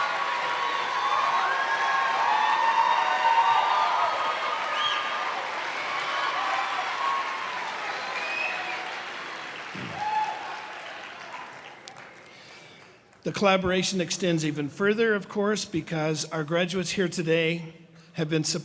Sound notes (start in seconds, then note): 2.2 cheers and applause